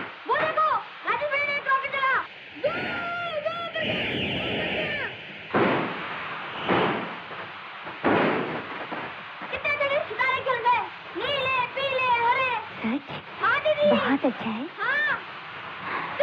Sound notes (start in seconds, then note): 5.5 crackers Sound